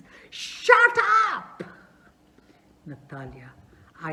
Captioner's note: shouts